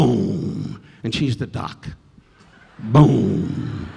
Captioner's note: audience laughing